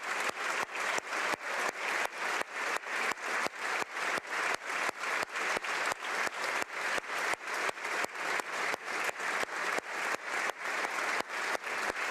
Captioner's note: applause